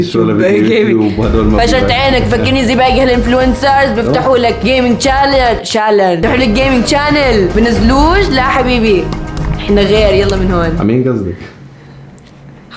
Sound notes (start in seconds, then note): 8.5 taps